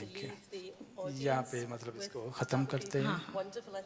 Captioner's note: speaks foreign language